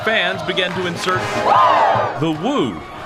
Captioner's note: crowd